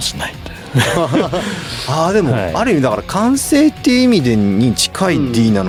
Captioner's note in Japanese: 笑い